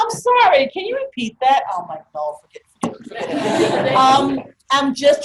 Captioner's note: group laughter